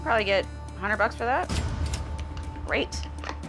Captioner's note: cash register dings